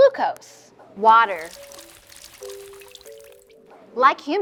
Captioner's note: water trickling